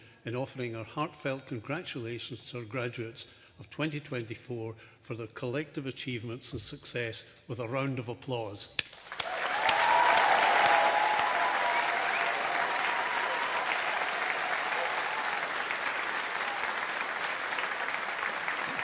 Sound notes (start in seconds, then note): 9.0 audience applauding